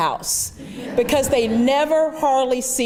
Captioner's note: laughter